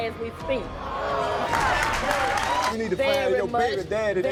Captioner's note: groaning